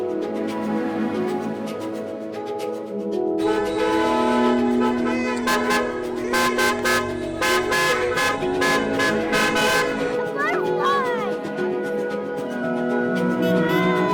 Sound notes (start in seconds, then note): 3.4 cars horns blasting; 10.0 children cheering